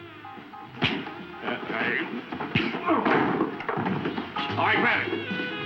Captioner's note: punches thudding